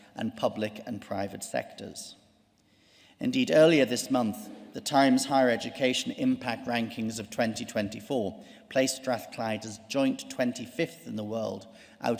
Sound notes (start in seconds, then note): none